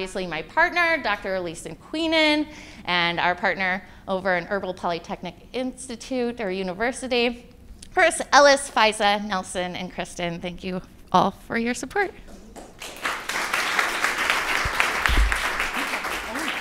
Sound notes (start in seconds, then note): 12.5 applause